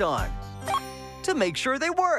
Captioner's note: beep